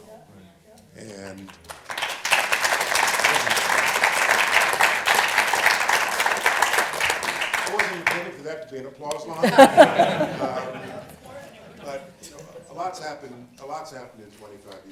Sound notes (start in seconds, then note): 1.4 applause; 9.3 laughter